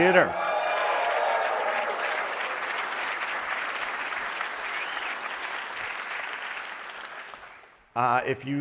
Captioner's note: applause